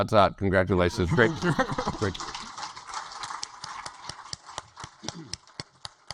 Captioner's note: audience applaud